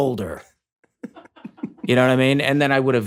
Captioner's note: laughs